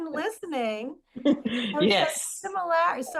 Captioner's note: laughs